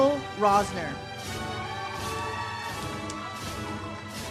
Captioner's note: audience cheers; uplifting music